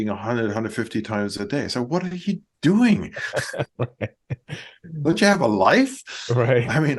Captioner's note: laughs